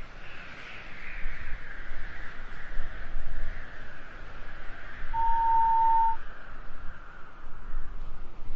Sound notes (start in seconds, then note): 5.1 friendly whistle